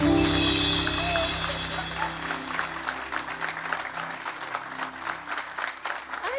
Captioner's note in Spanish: Aplausos